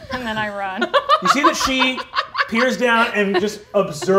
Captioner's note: laughing